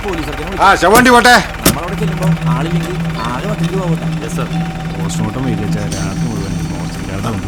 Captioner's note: indistinct chatters